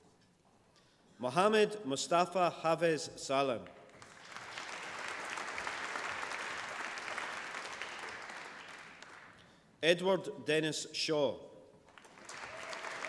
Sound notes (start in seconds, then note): 3.8 applause; 11.1 applause